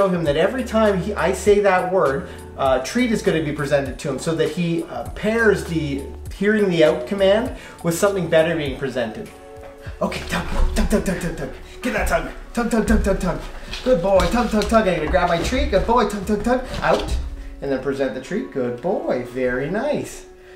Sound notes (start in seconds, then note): 9.8 rustling